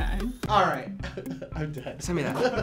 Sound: chuckles

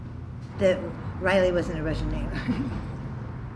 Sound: chuckles

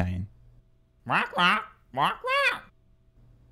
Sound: squawking

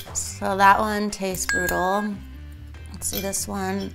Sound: bell dings

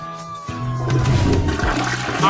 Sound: toilet flush

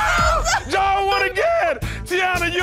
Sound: Teyonah laughing

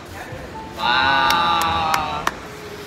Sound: clap

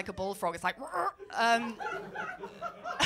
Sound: croaks; laughter

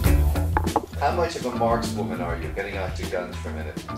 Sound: voiceover

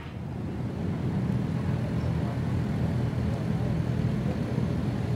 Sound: engine purrs

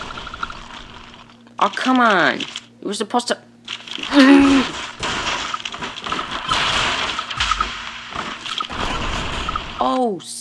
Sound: growls

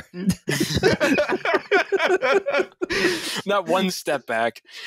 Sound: laughter

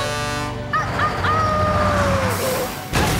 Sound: howling; cheering

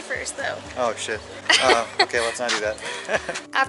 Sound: laughter

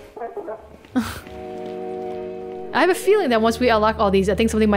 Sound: chuckles

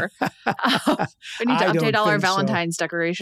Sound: laughs

